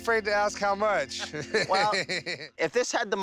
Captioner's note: both laugh